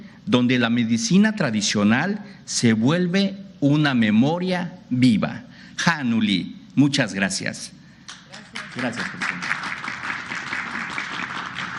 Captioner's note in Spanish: aplausos